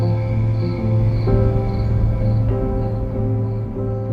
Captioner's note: crickets chirping